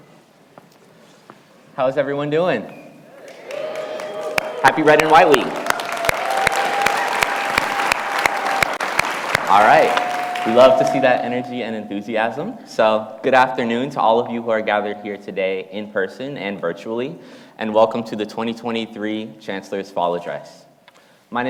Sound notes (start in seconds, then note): 3.2 audience cheering; 6.3 audience applauding